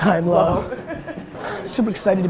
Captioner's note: woman 2 laughs